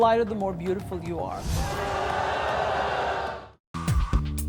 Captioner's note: crowd boos